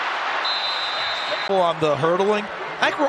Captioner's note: whistle blowing